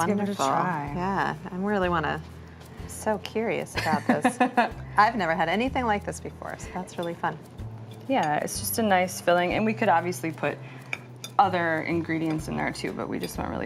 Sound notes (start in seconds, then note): 3.8 chuckles